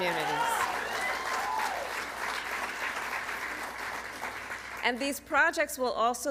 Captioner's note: applause